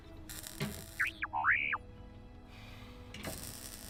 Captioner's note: R7 chirping on comlink